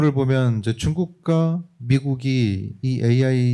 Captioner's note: speaking korean